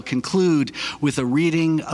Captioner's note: none